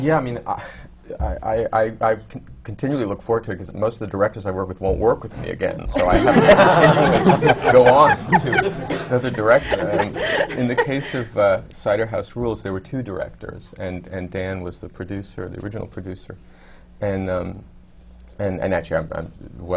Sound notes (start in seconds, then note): 5.9 laughter